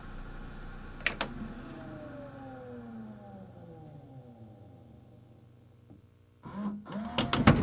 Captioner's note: disc rapidly slows down; more of the whirring heard before